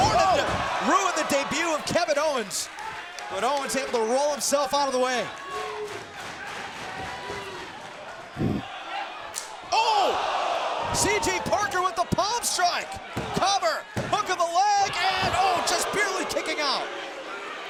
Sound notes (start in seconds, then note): 5.7 crowd cheering; 8.1 crowd groaning